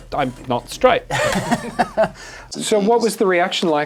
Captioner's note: laugh